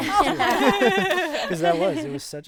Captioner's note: group laughing